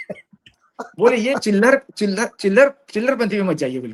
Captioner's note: laughter